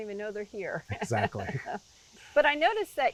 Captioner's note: laughing